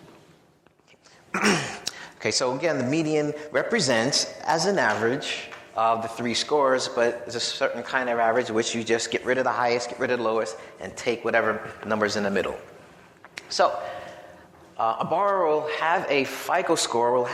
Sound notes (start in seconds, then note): 1.3 clears throat